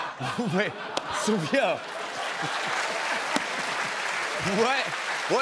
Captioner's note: laughter; laughter, cheers, applause